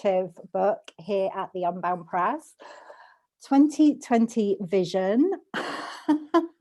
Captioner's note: laughs